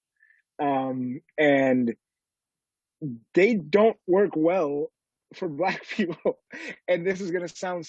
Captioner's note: laughs